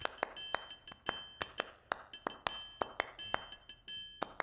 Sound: snap... snap... snap

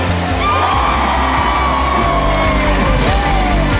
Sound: applause

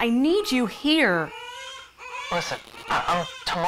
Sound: baby crying

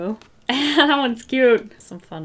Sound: laughs

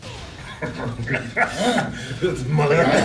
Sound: laugh

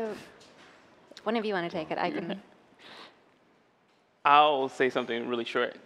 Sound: laughter

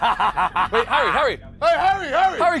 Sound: evil laugh

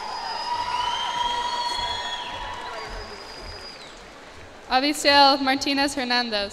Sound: cheers and applause

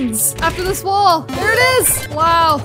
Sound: positive sound plays

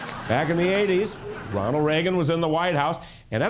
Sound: laughter

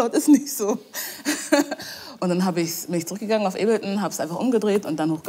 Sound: laughs

